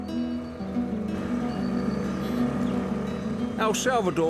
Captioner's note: boat engine whirs